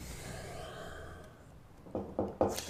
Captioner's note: sighing; knocking at door